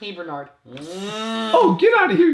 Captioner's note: smooching noises